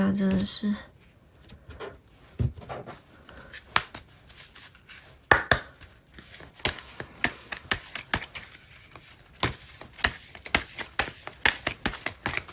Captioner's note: drawing cards